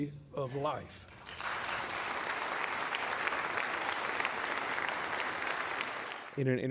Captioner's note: applause